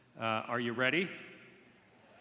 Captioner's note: cheering